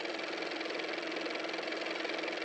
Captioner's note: car motor